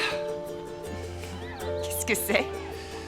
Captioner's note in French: rires